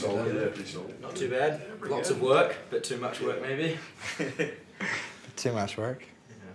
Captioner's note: chuckles